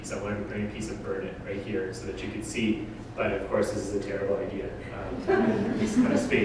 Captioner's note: audience: Laughter